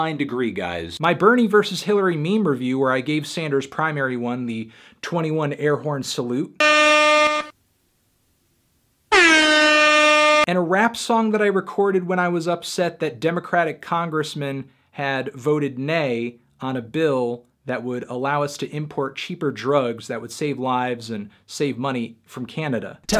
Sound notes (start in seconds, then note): 6.6 air horn; 9.1 air horn again